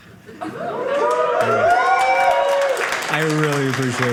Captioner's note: audience cheering